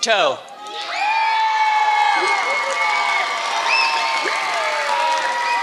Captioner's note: applause